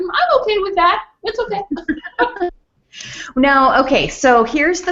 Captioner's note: laughs; laugh